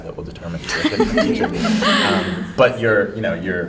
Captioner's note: laughter